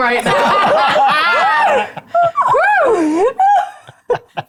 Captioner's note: players laughing